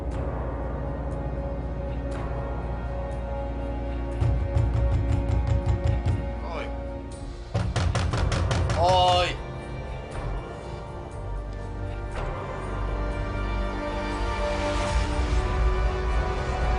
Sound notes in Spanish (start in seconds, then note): 4.2 Golpes en la puerta; 7.5 De nuevo golpean la puerta